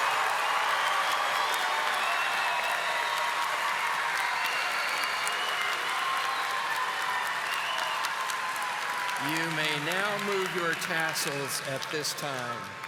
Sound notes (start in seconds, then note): 5.7 audience applauding